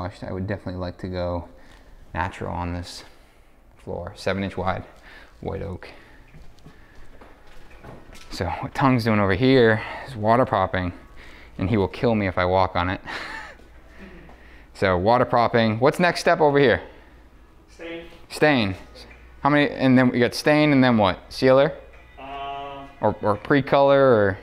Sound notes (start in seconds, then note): 13.2 laughs